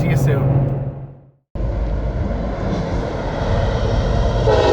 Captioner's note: train horn honking